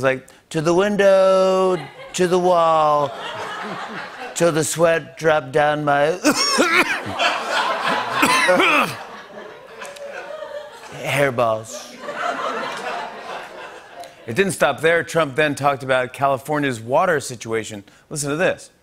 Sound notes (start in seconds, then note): 0.1 As Trump; 3.0 laughter; 6.2 laughter; 6.2 coughing; 11.7 laughter